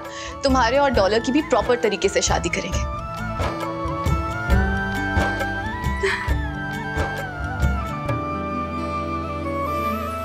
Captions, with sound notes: you and Dollar will also get married properly. [Emotional laugh]